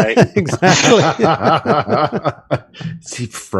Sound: laughter

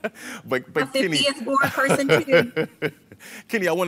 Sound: laughs

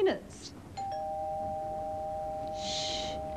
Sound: doorbell

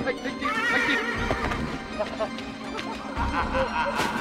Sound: suspenseful music; horse neighing; sinister laughing

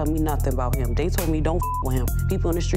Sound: beep

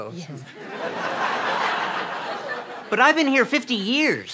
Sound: audience laughs

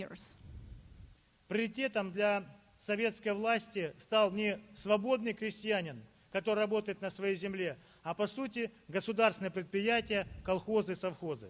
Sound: speaking Russian

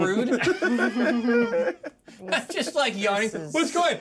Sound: laughs

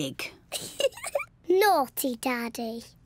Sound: giggles

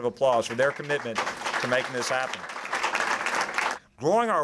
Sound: applause

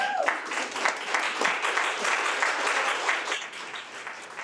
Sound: audience applauding

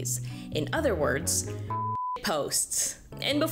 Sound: beep

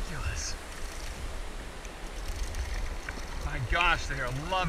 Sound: waves crashing

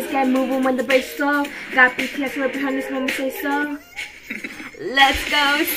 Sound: mmm-hmm-hmm-hmm

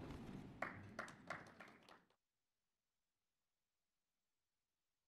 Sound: audience claps

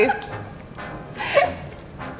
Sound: laughing

